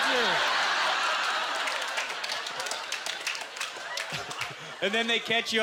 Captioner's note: scattered applause; audience laughter